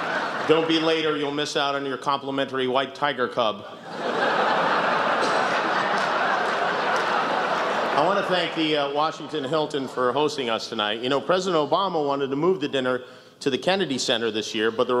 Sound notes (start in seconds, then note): 3.6 laughter